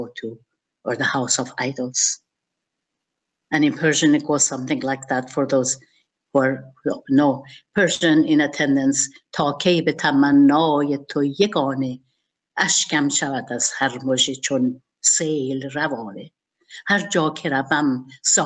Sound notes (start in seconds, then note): 10.3 speaking in Persian